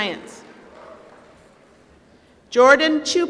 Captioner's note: applause